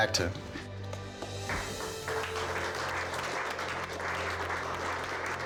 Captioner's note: clapping